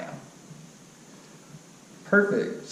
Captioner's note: pause